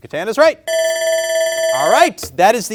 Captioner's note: alarm rings